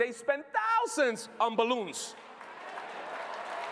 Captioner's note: applause